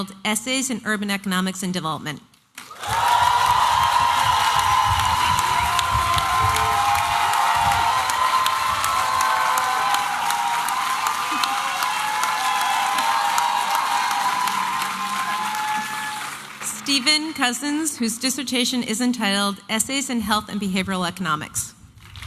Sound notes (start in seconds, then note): 2.3 applause and cheering; 22.0 applause and cheering